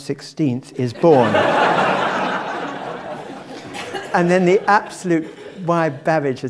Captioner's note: laugh